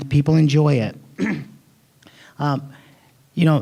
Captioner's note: clearing throat